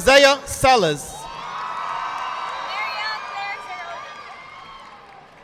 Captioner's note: audience applauding